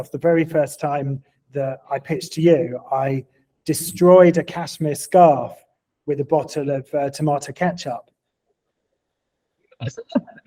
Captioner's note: laughing